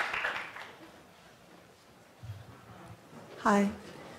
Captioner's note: applause